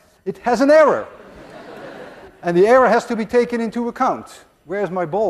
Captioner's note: class laughs